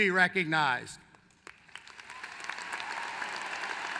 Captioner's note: applause